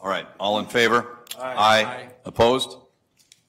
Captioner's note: multiple voices